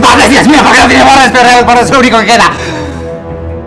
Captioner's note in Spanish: Gritos de Dalas